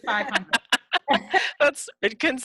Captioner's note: laughing